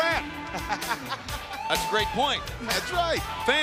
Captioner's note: laughs